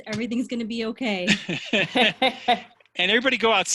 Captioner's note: laughter